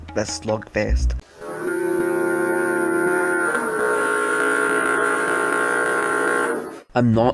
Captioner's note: very slow and very loud stinky foghorn sound